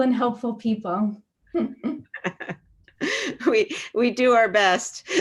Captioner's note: laughs; laughs